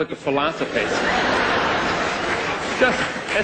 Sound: laughter

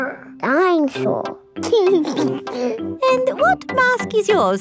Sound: giggles

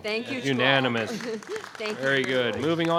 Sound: audience applauding

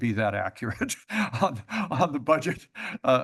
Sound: laughs

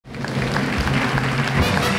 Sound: audience applauds; big band music

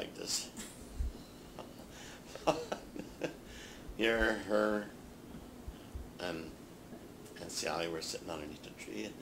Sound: chuckles

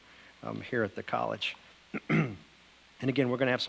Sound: clears throat

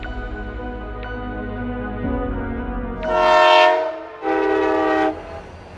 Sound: train toots loudly

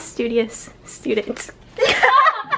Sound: laughs

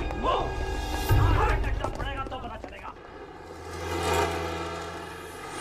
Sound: speaking foreign language

